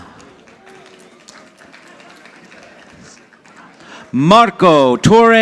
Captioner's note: audience applauding